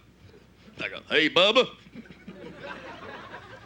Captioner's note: southern accent